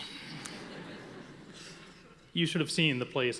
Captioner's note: audience laughing